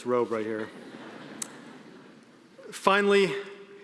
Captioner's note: audience laughing